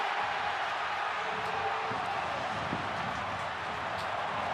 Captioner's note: cheers